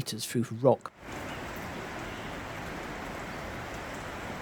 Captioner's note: sound of rushing water